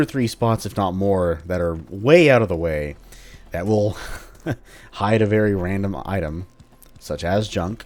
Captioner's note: chuckles